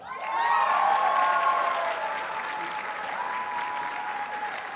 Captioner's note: audience cheers and applauds